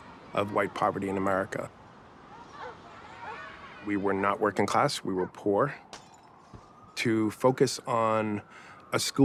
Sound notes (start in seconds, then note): 5.9 glass breaking